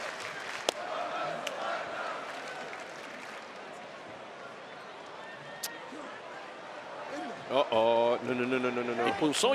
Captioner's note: applause